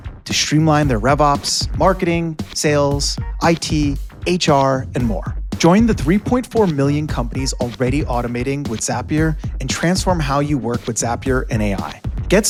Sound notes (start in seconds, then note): none